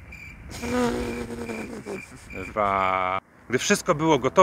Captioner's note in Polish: stłumiony śmiech zza kamery